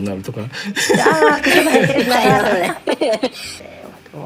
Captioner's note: laughs